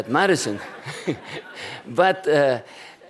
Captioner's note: laughter